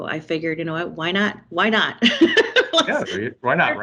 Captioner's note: laughing